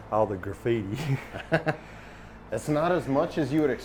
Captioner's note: chuckles